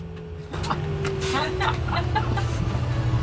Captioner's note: laughing